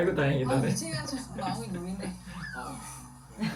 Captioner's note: broadcast sound